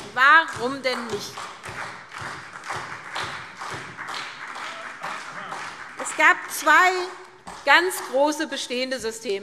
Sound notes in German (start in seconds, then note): 2.5 Beifall SPD